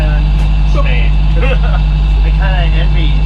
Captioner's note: laughter